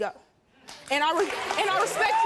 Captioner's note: audience clapping and cheering